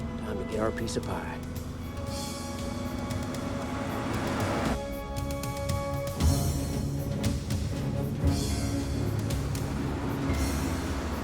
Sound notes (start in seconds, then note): 3.7 van rumbling; 5.5 suspenseful music continues